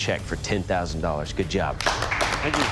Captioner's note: applause